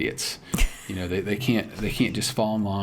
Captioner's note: chuckles